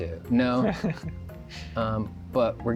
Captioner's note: laughs